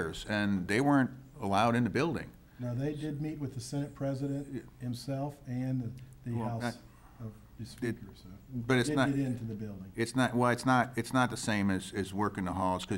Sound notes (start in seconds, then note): 6.3 faintly speaking